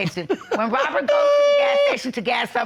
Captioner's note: laughs